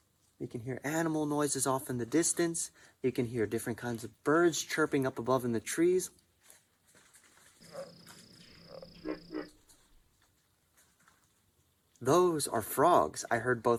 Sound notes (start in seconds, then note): 7.6 rustling and croaking